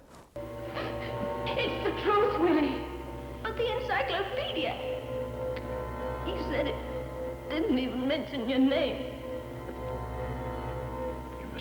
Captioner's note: echoing voice